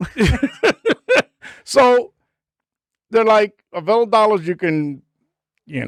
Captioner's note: laughing